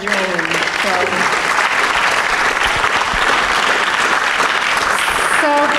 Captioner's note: applause